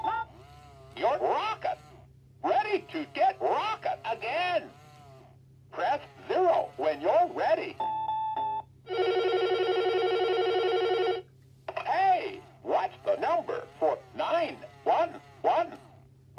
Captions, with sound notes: You're rocking! Ready to get rocking again? Press "0" when you're ready. (phone ringing) Hey! What's the number for 9-1-1?